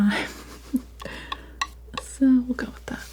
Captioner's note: chuckles